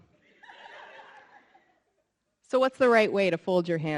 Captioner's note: audience laughing